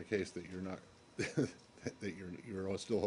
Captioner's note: laughter